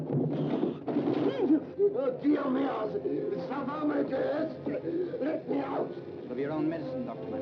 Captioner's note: speaks in foreign language